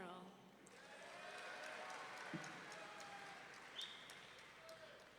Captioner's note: audience members cheering